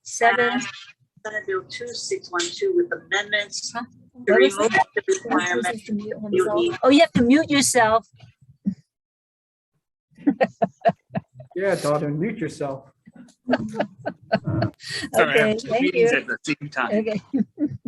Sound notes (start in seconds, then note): 10.2 chuckles; 13.2 chuckles